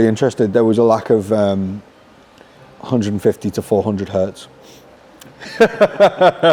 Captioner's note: laughs